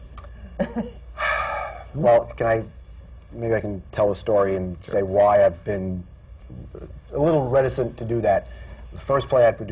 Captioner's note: sighs